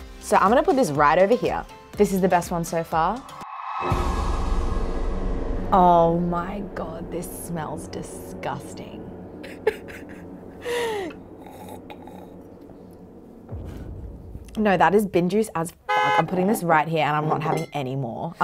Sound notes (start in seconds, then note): 9.4 laughs; 15.8 beep